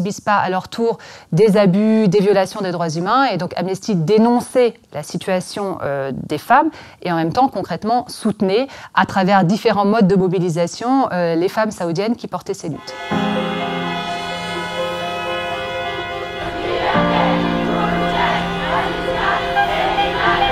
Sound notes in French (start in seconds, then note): 12.8 concert de klaxons